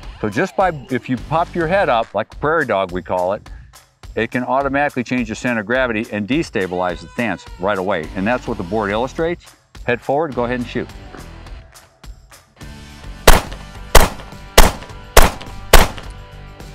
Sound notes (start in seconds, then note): 13.2 gun popping